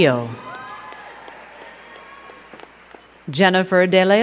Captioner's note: crowd cheering and clapping